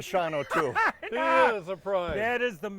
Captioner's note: laughing